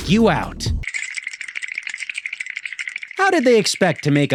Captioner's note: bones rattling